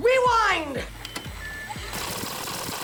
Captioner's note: beep